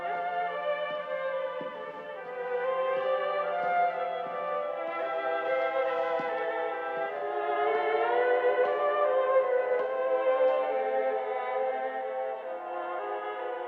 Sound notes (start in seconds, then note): none